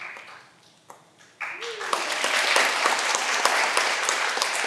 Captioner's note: all applauding